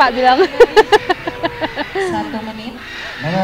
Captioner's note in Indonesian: Ketawa